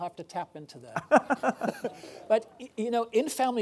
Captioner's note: laughing